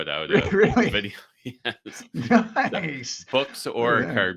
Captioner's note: laughs